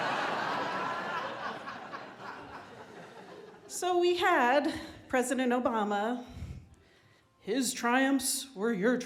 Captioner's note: laughter